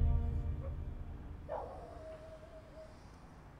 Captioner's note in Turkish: Köpek havlama sesi